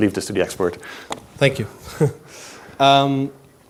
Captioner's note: laughs